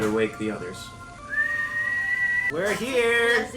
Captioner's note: whistling